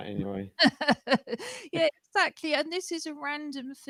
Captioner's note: laughter